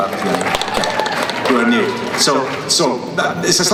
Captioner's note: clapping